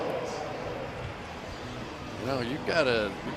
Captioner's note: pa announcement